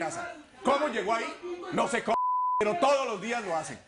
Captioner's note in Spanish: Bip